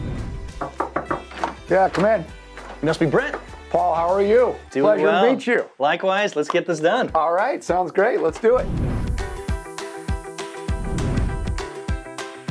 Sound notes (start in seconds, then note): 0.5 knocks on door; 9.0 upbeat music